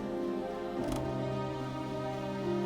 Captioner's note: door opens